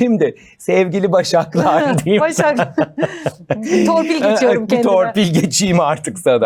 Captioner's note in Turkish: kahkaha